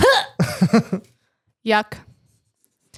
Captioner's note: gag